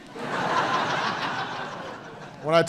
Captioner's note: laughter